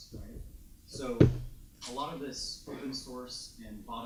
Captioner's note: speaks faintly